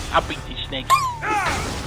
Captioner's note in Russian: Мычит